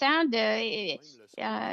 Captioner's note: speaking French